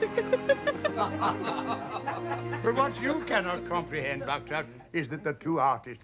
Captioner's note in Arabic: يضحك